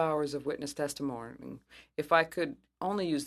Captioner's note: speaking french